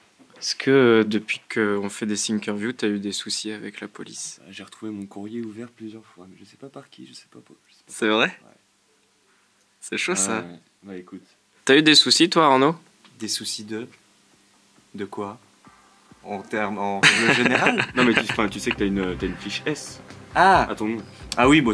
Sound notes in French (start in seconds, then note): 4.8 voix basse